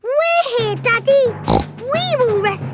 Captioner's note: snorts